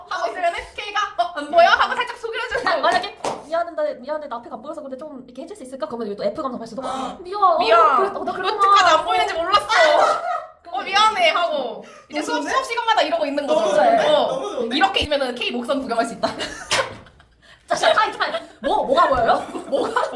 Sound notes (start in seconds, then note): 16.2 laughs